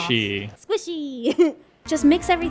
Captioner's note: laughs